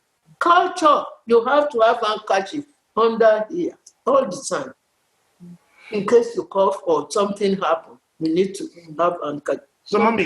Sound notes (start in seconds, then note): none